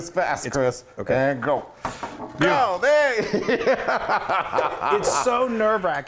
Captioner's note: laugh